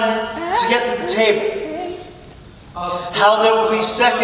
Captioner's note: mocking birds echo over narrator